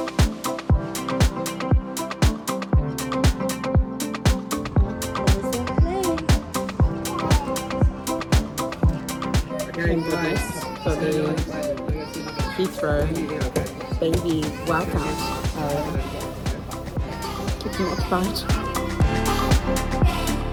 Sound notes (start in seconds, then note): 0.1 upbeat electronic music; 9.9 baby crying; 20.2 upbeat electronic music